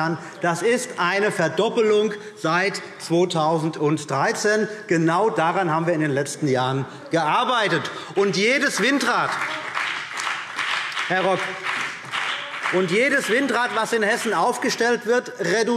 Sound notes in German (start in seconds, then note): 8.4 Beifall BÜNDNIS 90/DIE GRÜNEN und vereinzelt CDU